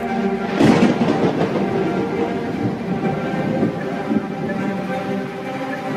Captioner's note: thunder rumbles